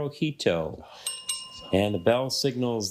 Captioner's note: bell rings